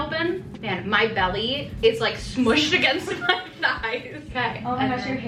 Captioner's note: laughs